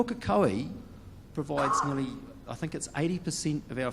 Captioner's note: speaks in foreign language